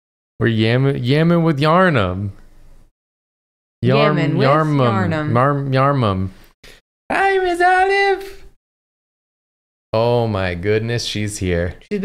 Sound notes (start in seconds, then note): 4.8 soft voice